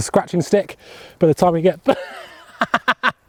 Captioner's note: laughs